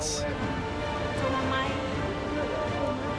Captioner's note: speaking Tahitian